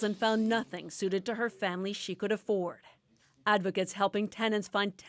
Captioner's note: speaking French